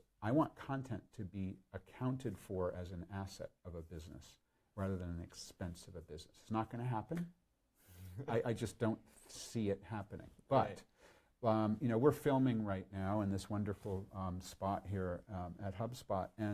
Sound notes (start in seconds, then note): 7.8 chuckles